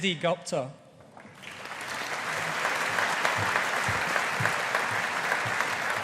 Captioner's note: audience applauding